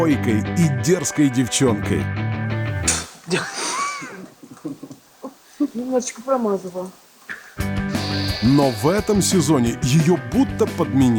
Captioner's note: inhales and exhales noisily